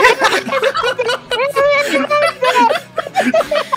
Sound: laughter

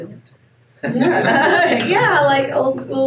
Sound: laughing

